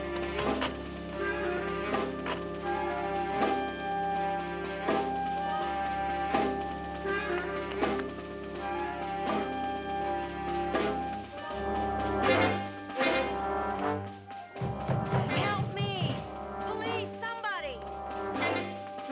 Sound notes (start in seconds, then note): 14.3 Sally banging on door